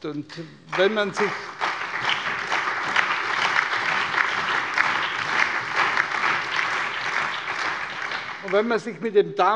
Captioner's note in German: Allgemeiner Beifall